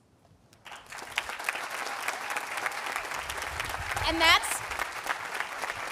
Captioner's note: audience applauding